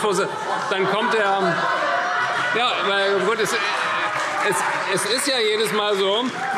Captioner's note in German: Heiterkeit und Beifall CDU und BÜNDNIS 90/DIE GRÜNEN